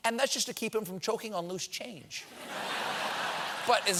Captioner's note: laughter